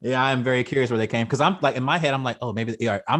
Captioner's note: laughs